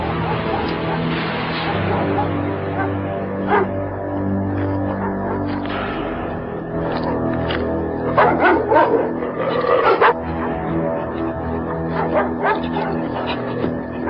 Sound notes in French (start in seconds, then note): 6.8 chiens qui jappent